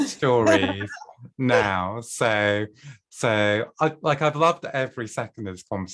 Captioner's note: laughter